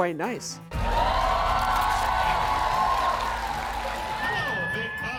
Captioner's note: audience cheering